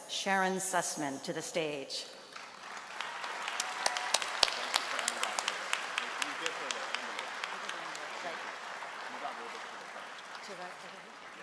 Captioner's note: applause